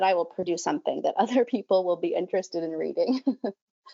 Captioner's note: laughs